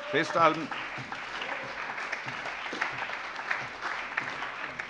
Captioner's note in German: Allgemeiner Beifall